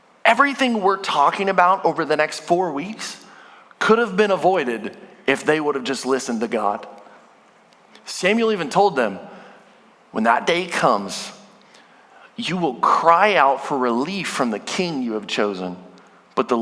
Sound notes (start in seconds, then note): none